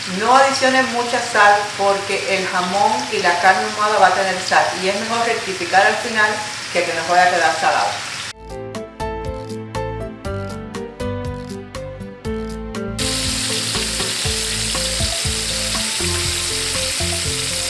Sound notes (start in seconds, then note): 13.0 sizzling